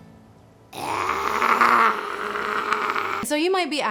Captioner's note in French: Elle refait le truc où elle grogne et feule à la fois, c'est impressionnant